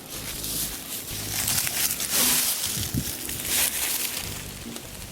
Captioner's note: leaves rustling